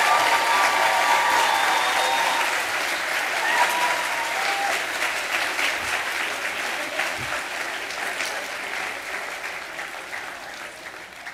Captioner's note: cheers and applause